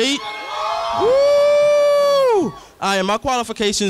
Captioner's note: crowd cheering